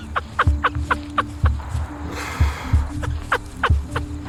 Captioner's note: person laughing